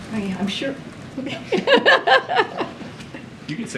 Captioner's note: laughs